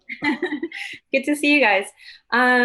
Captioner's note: laughs